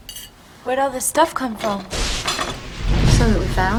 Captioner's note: thunder & lightning